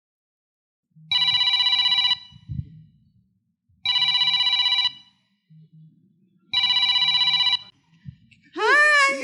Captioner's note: annoying cell phone ringing